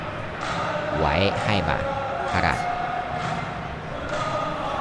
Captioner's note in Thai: ปรบมือ